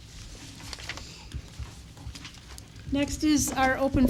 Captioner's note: rustling papers